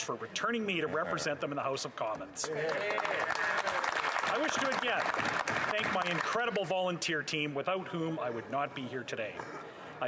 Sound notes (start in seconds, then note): 5.9 some Applause